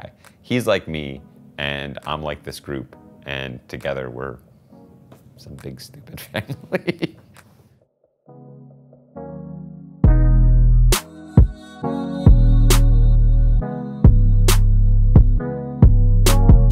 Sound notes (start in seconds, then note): 6.2 laughs; 9.9 chill electronic music